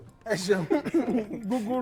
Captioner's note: laughs